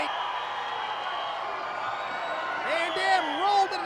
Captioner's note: crowd cheers